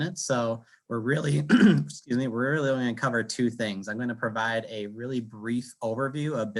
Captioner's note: cough